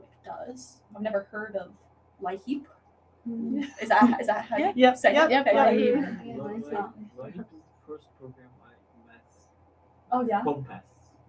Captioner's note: chatter